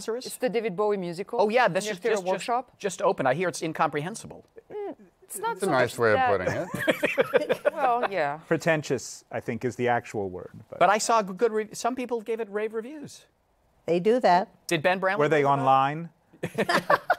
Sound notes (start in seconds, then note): 6.5 laughing; 16.4 both laugh